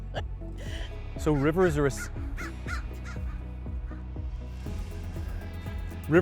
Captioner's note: laughs; bird cawing